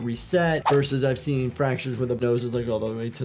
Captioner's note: audio whooshes